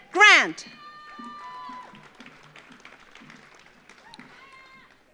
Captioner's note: audience applauds